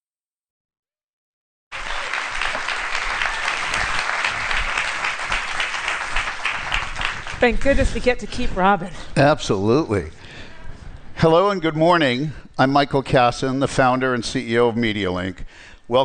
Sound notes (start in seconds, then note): 1.7 applause